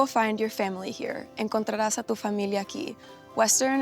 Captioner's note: speaking in Spanish